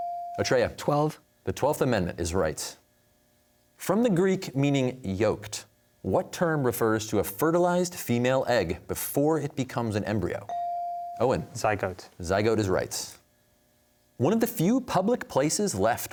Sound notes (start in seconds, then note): none